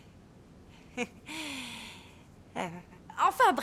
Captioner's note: chuckling